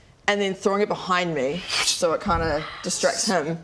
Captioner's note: none